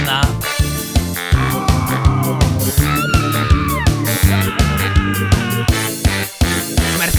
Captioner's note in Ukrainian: Крики